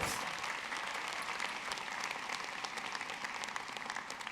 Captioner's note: audience clapping